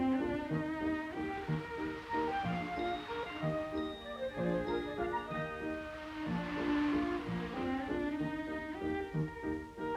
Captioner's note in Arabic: هبوب الرياح; موسيقى غريبة